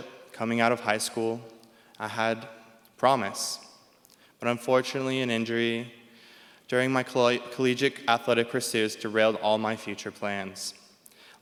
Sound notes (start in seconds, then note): none